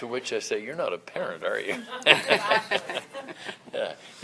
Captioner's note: both chuckle